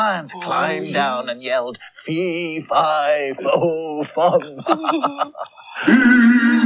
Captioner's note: chuckles